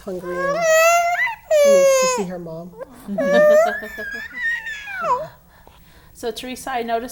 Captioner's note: laughing